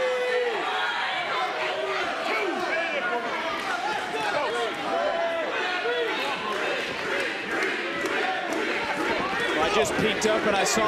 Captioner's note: crowd chants "creeds"